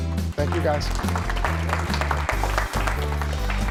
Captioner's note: applause